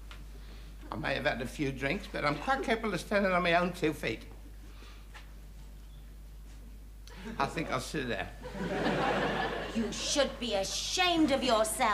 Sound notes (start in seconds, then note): 8.4 audience chuckles